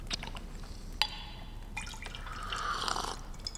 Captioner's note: slurps